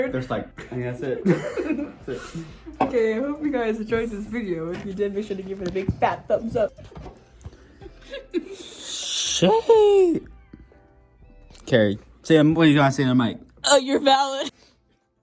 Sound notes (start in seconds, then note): 7.8 laughs